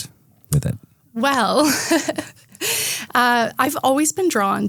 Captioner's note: laughs